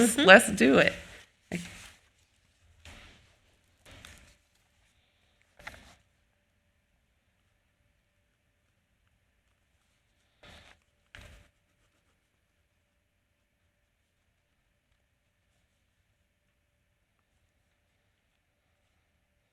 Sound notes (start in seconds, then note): 5.6 paper rustling